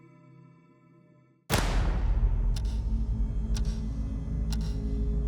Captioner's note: gun shot firing